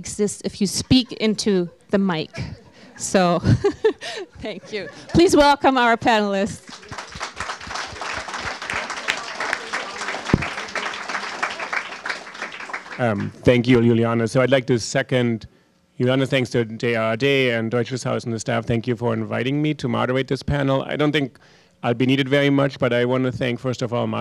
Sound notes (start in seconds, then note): 2.2 laughter; 6.4 applause